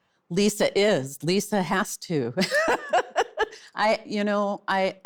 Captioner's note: laughs